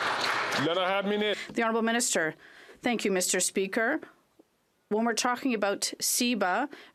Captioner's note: some Applause